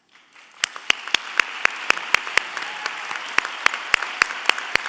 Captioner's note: audience applauding